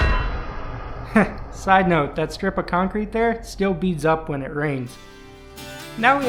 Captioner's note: heh